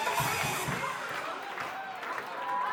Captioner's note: crowd cheering